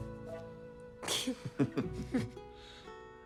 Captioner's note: snickers